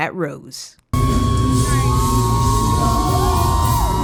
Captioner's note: cheering